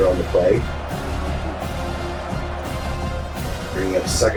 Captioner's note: crowd Noises